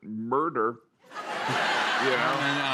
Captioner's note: laughter